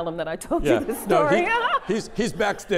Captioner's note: laughter